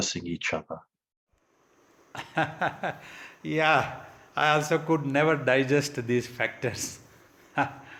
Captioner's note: laughs